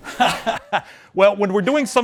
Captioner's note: laughter